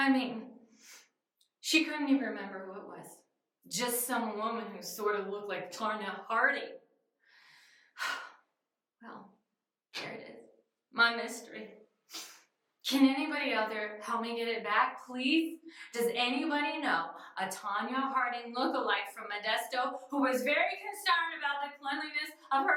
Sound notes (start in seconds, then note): 8.1 sighs